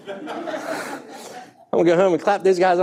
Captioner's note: audience laughing